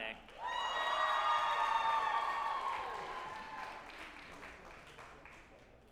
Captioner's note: group applauding and cheering